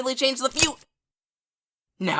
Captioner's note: snap